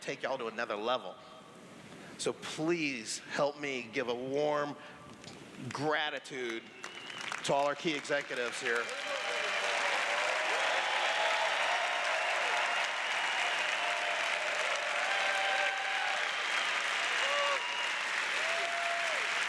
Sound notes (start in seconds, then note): 10.2 cheers; 13.6 applause